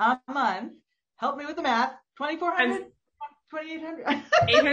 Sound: laughs

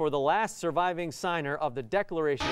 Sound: alarm sounding

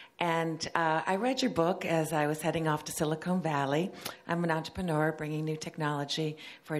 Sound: none

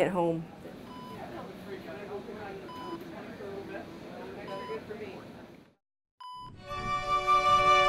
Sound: machine beeping

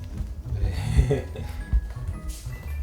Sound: laughter

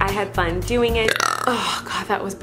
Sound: burping

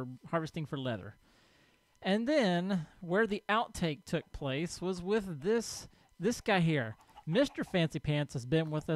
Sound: chickens clucking

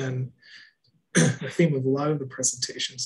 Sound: clears throat

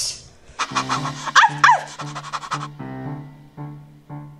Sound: panting and barking; ominous music

